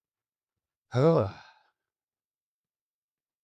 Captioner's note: sighs